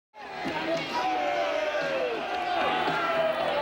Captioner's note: audience booing